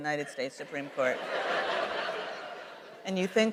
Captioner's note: laughter